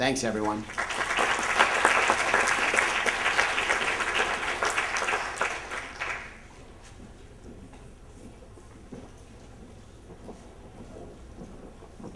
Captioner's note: applause